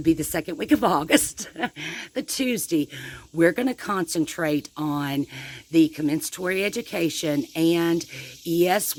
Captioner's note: chuckles